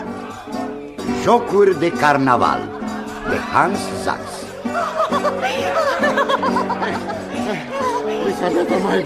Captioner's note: laughter